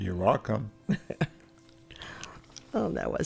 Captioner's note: laugh